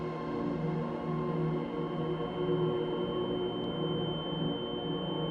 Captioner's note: high-pitch ringing